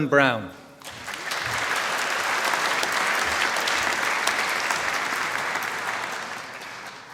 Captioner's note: applause